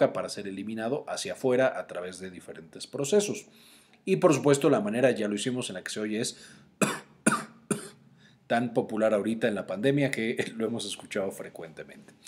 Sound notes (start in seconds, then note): 6.8 coughs